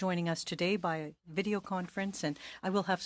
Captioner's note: speaking French